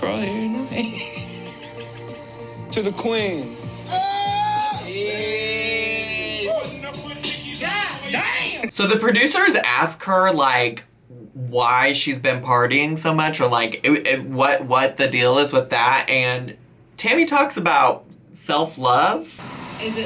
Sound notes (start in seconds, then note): 0.7 chuckles; 0.7 laughs; 3.8 men yelling in background